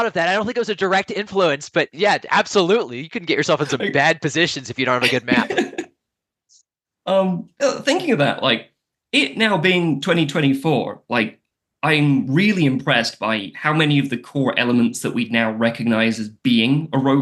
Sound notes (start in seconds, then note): 7.9 laughs